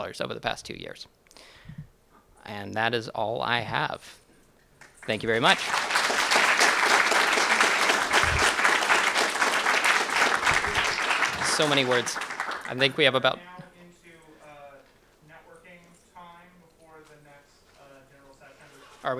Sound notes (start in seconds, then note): 4.8 applause